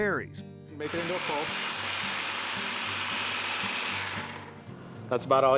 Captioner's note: buzzing, blending sound